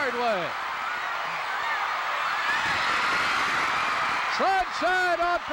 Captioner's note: audience cheering